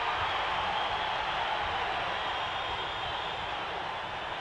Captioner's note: audience cheering